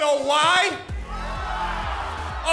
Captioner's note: crowd cheering